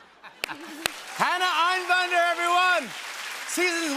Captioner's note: laughter; cheering and applause